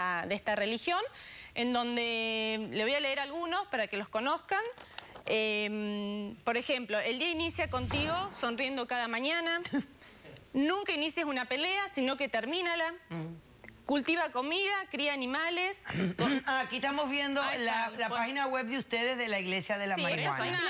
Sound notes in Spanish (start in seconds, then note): 15.8 carraspea